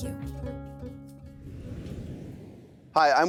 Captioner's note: screen whooshes